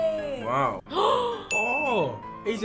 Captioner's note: gasps